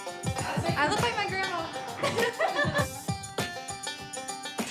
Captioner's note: spraying; laughs